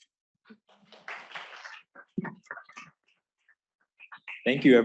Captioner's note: applause